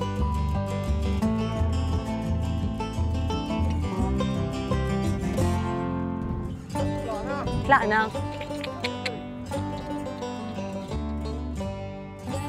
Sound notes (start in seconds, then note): 8.2 clucks